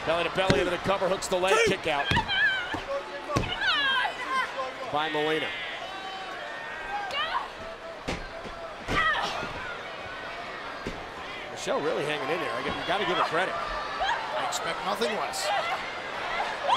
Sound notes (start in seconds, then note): 5.7 crowd clamoring; 8.9 Michelle grunts